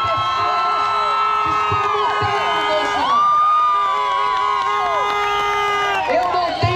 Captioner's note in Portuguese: Aplausos